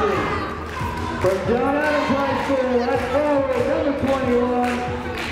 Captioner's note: speaking faintly